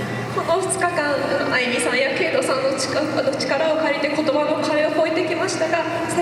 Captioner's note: speaking Japanese